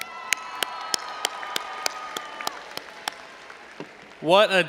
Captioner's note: audience applauding and cheering